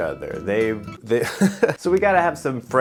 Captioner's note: laughs